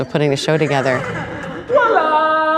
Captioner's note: laughter